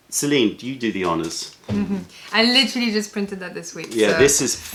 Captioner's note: laughter